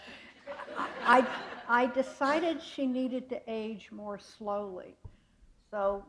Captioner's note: laughter